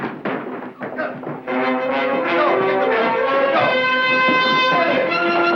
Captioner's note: scuffling